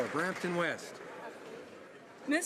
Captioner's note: some Applause